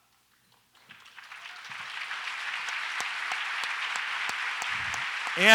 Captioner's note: audience applauds